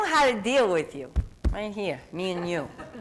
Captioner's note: laughter